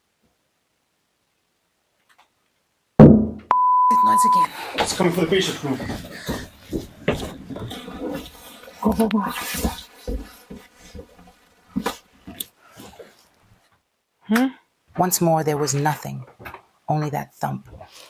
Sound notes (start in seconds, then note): 3.0 thump